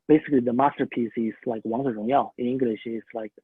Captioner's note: speaking in foreign language